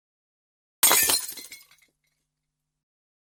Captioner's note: glass shattering sfx